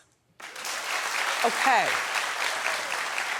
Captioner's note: audience clapping